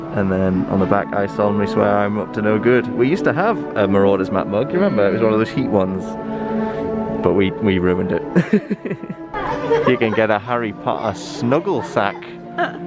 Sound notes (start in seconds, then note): 8.3 laughing